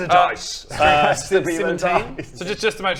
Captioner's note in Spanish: llorando